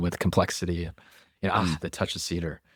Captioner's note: laughs